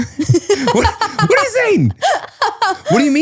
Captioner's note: laughs